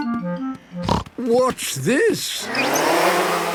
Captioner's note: snorting